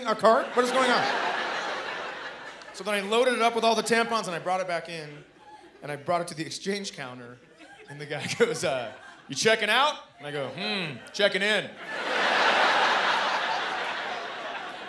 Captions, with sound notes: What is going on? So then I loaded it up with all the tampons and I brought it back in. And I brought it to the exchange counter. And the guy goes, uh, "You checkin' out?" And I go, "Hmm, checkin' in." [laughter]